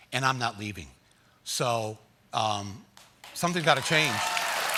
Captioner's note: applause